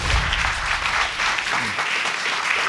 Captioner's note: audience applauding